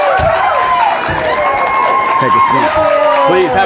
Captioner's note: audience cheering